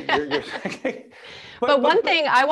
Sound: laughing

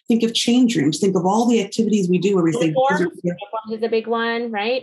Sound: interférence

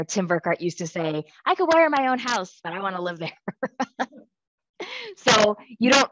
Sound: laughs

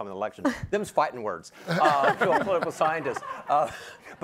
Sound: everyone laughs

